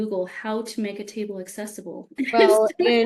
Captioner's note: laughs